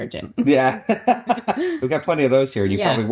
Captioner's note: laughs